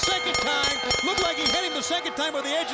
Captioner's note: bell rings